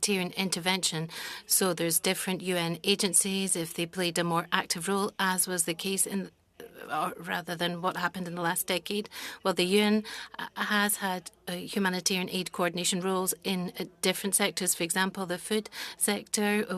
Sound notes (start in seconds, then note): 0.7 speaking French